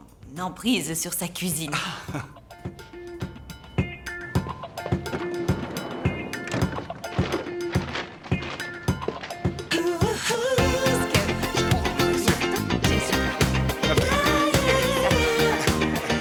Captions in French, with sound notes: La main de fer sur la cuisine. (rires) (musique entraînante) (bavardage indistinct)